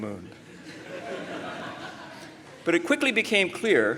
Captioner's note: laughter